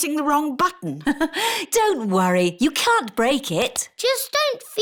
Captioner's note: laughs